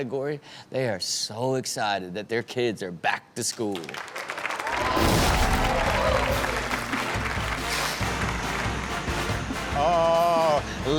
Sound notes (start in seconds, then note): 3.9 audience cheering and clapping; 8.4 upbeat music